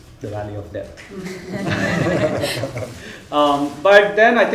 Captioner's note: audience chuckling